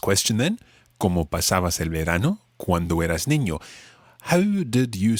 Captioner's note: speaks in foreign language